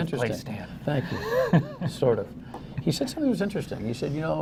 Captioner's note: laughter